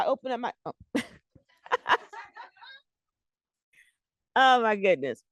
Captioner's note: laughter